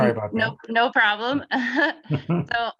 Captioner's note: laughing